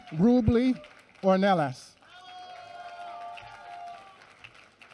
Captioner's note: applause